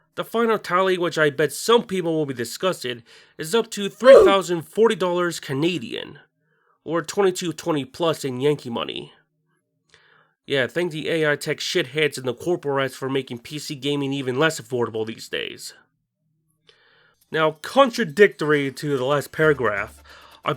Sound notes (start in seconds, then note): 4.0 OOF.wav